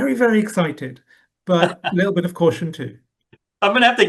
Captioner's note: laughs